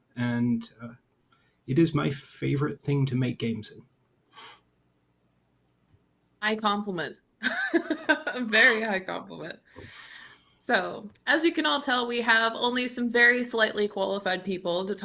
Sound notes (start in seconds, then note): 7.4 chuckles